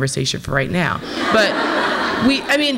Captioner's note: audience laughs